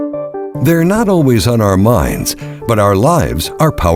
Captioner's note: voiceover